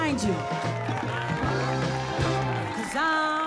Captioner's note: cheers and applause